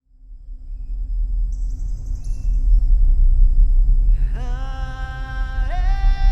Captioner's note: birds chirping; poignant music; singing